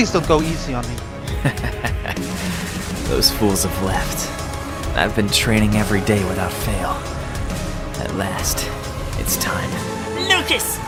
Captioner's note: laugh